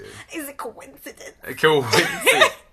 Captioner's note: laughs